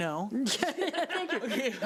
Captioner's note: group laughs